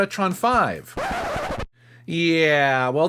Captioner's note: record scratch